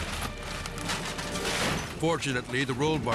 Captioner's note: suspenseful music; Jeep imploding